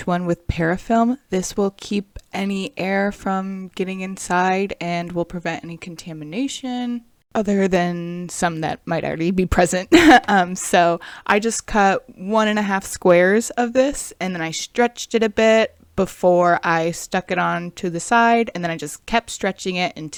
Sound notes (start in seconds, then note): 9.9 chuckles